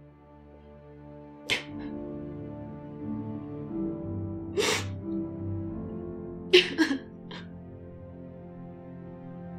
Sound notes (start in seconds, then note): 3.1 crying